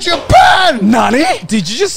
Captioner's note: speaks in Japanese